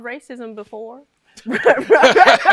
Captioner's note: laughter